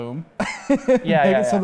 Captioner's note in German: Lachen